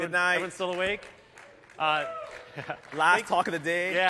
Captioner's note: cheers